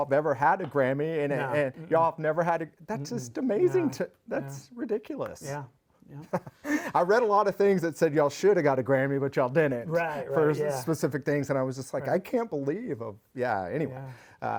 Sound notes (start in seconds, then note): 6.3 laughs